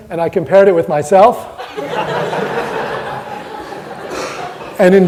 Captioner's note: audience laughter